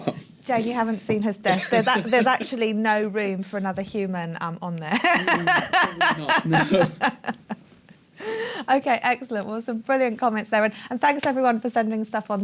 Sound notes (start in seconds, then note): 4.9 laughter